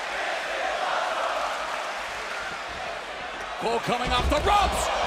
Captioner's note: fans chanting